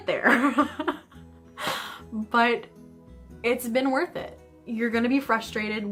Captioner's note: laughter